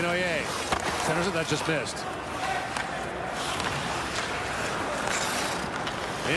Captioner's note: cheering